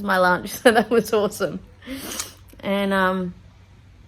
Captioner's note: chuckling; sniffs